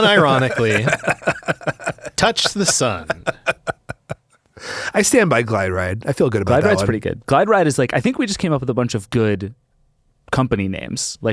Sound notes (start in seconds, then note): 3.1 laughing